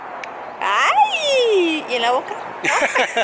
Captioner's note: laughs